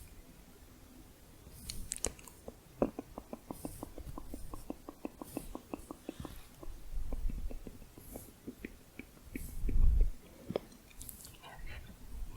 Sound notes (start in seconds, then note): 1.6 muffled tongue clicking